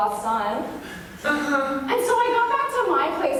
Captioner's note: whimpering